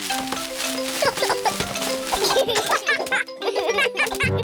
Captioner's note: peppa and george giggle